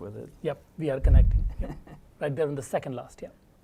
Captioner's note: laugh